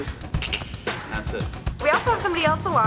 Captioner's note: tongue clicks